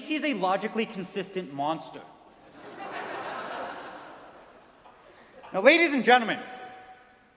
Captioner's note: laughter